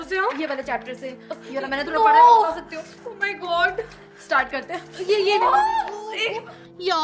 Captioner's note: chattering